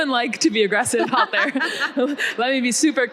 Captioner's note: both laughing